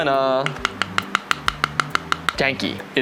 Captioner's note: knocking